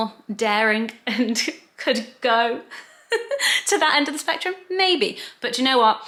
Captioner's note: laughs